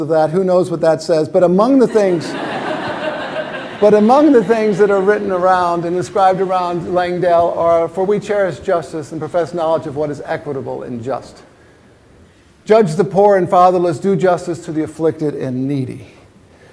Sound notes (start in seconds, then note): 1.8 laughter